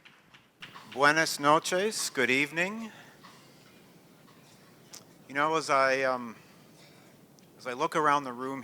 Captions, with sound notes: [NON-ENGLISH SPEECH] Good evening. You know as I look around the room